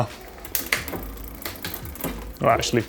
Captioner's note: moving bicycle chain